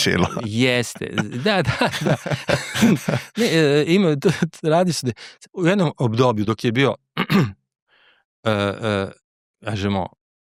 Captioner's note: laughs